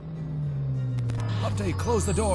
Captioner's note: alarm blaring